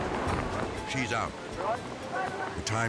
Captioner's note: water rushing